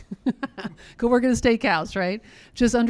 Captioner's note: laughs